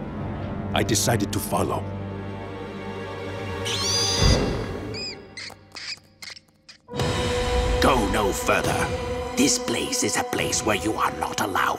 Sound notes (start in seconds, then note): 3.2 squeaking